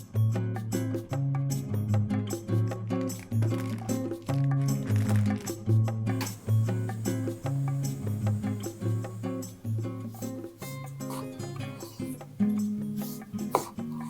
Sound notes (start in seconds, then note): 6.0 water on noodles